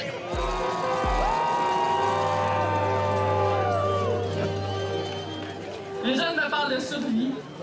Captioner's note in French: tintamarre